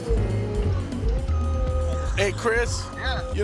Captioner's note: tractor beeping